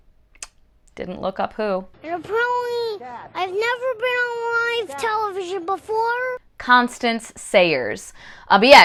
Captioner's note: lil kid speaking